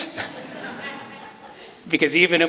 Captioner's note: laughter